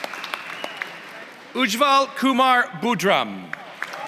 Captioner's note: applause; applause